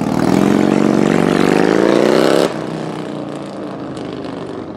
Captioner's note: motorcycle engine roars